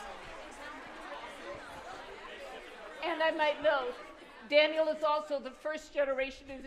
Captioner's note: applause